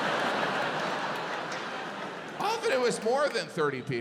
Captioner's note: audience laughs